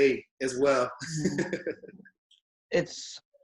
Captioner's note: laughs